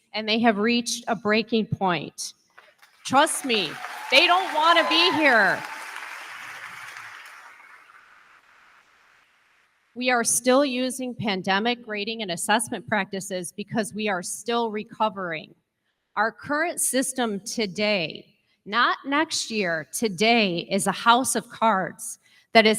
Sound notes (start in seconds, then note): 5.6 crowd clapping